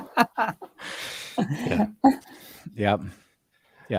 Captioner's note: laughing